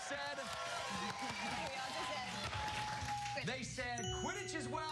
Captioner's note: cheers and applause